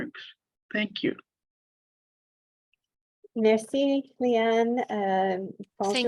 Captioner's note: French